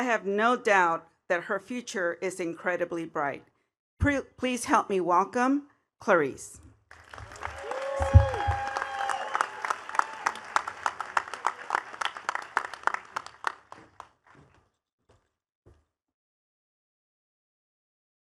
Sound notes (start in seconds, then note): 6.9 attendees cheering and clapping